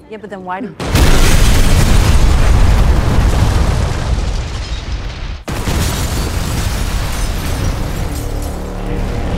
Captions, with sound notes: - Yeah, but then why do- (house explodes) (building explodes)